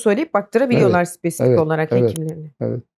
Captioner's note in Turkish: boğazını temizler